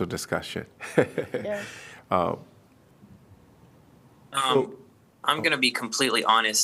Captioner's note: laughter